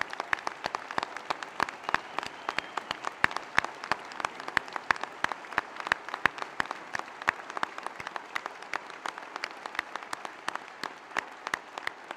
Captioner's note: applause